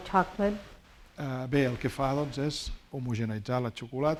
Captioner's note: speaking spanish